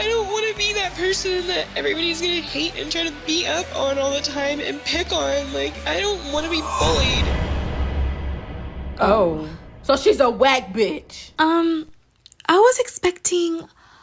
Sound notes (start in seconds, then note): none